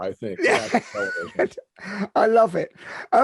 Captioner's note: laughing